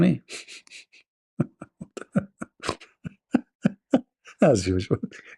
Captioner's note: Ketawa